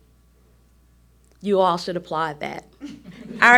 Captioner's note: audience chuckles